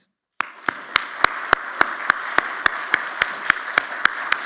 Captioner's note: audience applauds